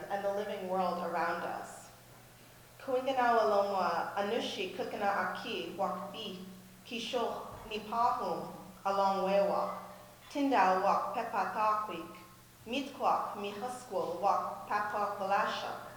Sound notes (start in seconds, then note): 2.6 speaks in Munsee